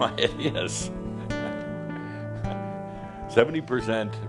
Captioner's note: chuckling